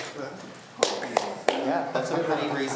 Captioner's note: claps